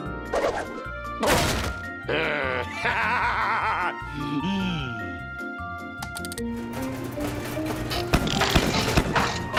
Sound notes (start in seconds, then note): 1.2 crash; 6.5 heater rattling; 6.5 dial clicking; 9.3 heater sputtering